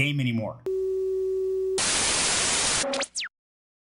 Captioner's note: BEEP, Static